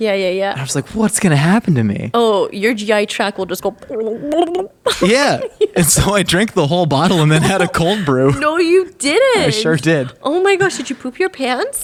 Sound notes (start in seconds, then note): 3.6 bubbles; 3.6 laughing